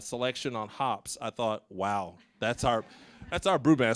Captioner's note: audience laughing